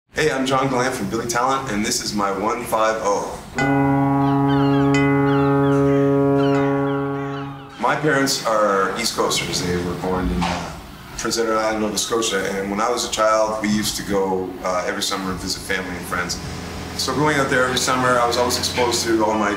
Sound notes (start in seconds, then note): 3.5 fog horn blaring; 3.8 seagulls squawking